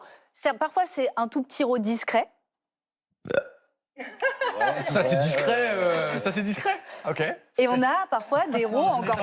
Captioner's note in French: rires